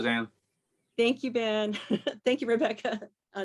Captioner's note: laughs